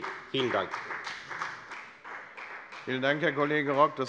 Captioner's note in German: Beifall bei der FDP